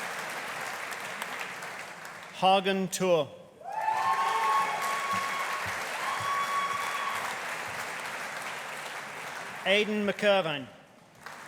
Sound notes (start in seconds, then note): 3.6 audience cheering; 3.7 audience applauding